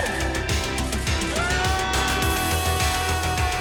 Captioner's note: yelling